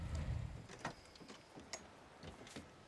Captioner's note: car doors open